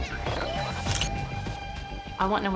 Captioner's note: camera shutter sound